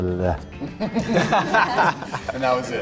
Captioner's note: all laughing